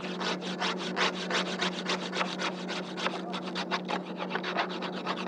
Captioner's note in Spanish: Raspando el hielo de la ventana